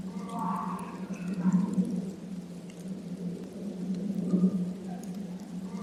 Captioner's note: creature continues vocalizing